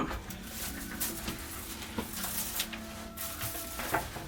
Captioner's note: props shuffling